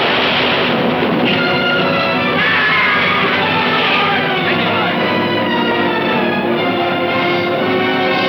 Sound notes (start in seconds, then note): 1.2 dramatic music; 2.2 Ben screaming